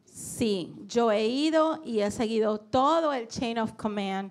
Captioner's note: speaking in foreign language